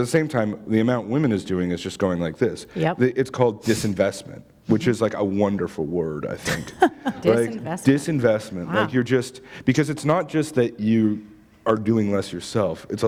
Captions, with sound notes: But at the same time the amount women is doing is just growing like this. It's called 'disinvestment', which is a wonderful word, I think. [laughter] Disinvestment? Wow. Disinvestment. Like you're just... Because it's not just that you are doing less yourself.